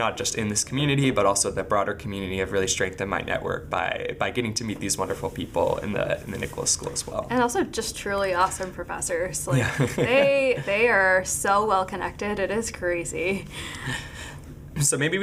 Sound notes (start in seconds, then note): 9.5 laughing